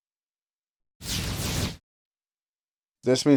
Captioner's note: swooshing